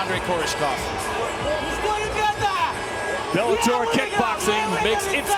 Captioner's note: foreign